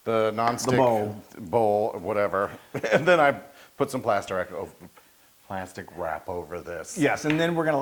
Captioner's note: laugh